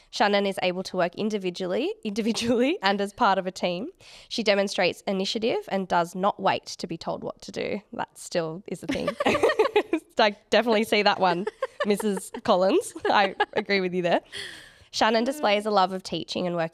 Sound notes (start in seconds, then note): 8.9 both laughing